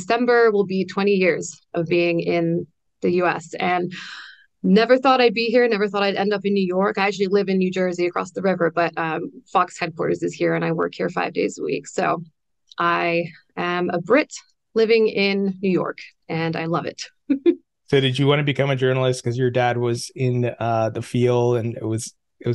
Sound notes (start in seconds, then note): 17.2 laughs